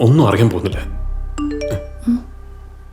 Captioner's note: phone vibrates